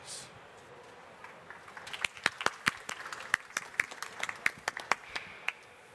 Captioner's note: applause